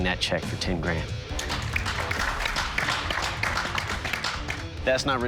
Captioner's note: applause